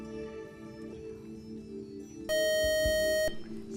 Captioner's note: buzzer